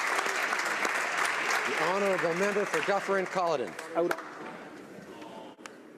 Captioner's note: applause